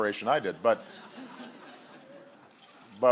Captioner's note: laughter